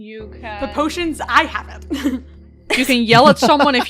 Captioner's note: laughter